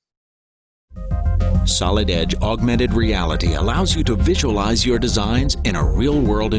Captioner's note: voiceover